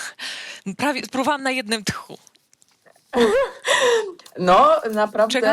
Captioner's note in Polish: śmiech